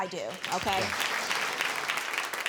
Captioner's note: audience clapping